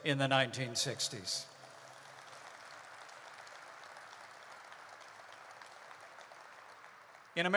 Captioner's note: applause